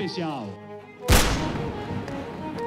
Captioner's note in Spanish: ráfaga